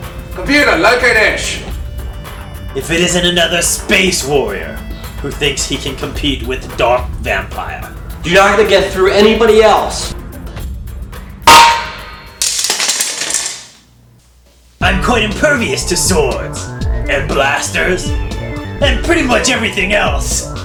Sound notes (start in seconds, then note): 11.5 clank